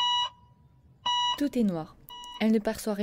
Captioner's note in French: son constant de l’électrocardiogramme